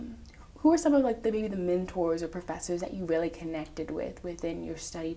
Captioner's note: none